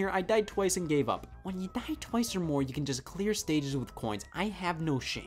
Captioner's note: none